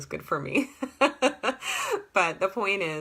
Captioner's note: laughter